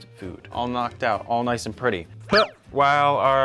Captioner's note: grunts